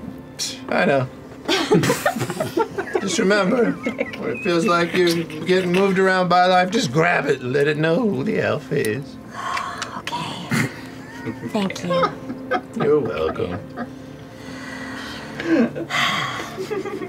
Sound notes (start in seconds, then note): 1.5 laughter; 4.0 laughing; 4.9 laughter; 10.1 sighs; 11.1 laughter; 14.4 sighs; 14.9 laughter